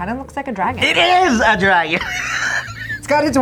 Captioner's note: chuckles